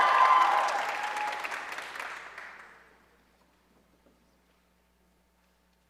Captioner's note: audience cheering and applauding